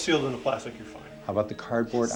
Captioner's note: whispering